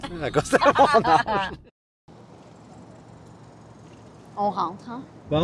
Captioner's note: laughs